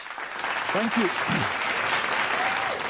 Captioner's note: applause